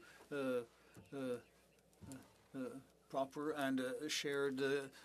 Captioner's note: speaking French